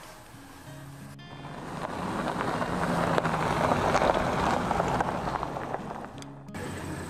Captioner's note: truck sound